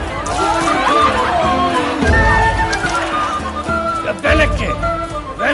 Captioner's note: crowd continues chanting